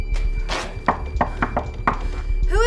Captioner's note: knocking on door